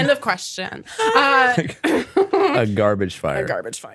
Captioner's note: everyone laughs